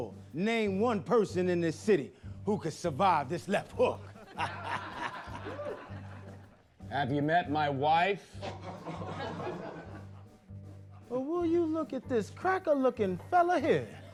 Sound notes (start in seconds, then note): 3.4 laughs; 8.2 laughter